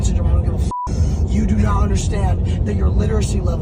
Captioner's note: beeps